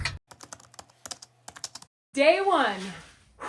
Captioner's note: keys clacking